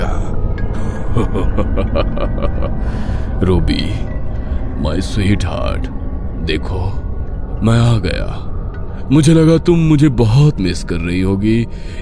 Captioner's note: in a demonic voice